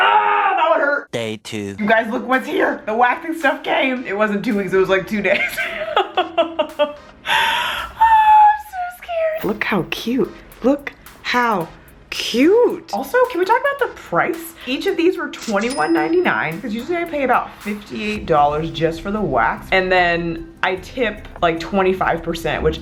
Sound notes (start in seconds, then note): 5.4 laughing